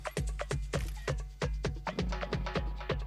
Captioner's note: upbeat music; camera clicks; upbeat music